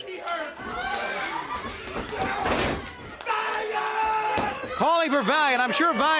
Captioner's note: crowd chatter